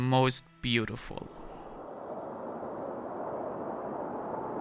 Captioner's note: wind blowing